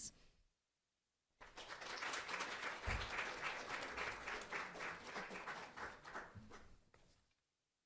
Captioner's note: applause